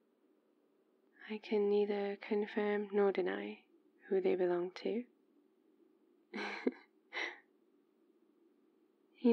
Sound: laughs

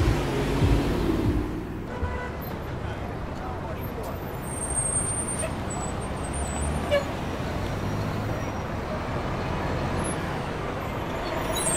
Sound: cars rev

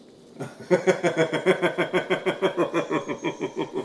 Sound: Thomas laughs

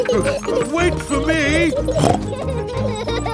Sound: snorts

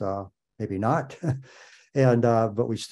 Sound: laughs

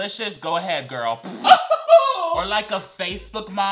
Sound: laughs

